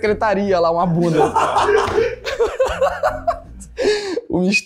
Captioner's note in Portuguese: risadas